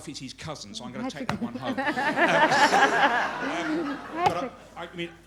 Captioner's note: laughter